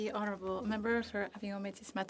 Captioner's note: speaking French